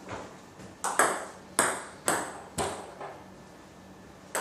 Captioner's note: ball ping pong hitting continues